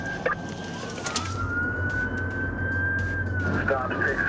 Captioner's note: sirens wailing